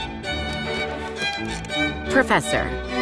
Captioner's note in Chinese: 投影片點按聲